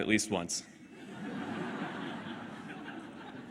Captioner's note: laughter